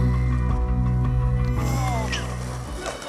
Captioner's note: singing; groans; whooping and laughing